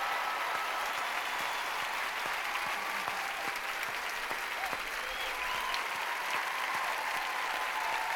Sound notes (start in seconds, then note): 3.7 applause